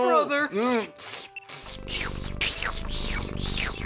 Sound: slurping and purring sounds

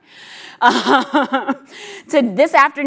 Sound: laughs

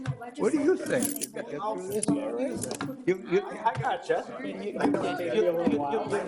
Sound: indistinct conversation

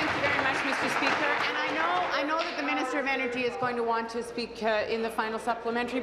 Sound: applause

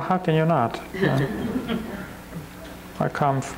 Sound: crowd chuckles

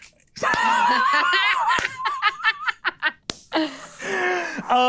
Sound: players laughing

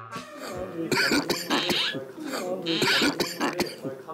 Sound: cough cough cough

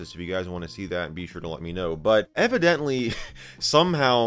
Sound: chuckles

